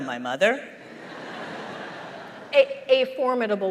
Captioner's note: laughter